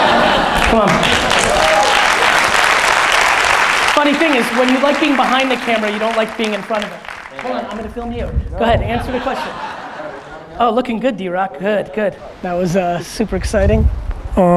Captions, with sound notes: (audience applause) Funny thing is when you like being behind the camera, you don't like being in front of it. Hold on, I'ma film you. Go ahead, answer the question. (audience laughs) Oh, looking good DRock, good, good. That was super exciting.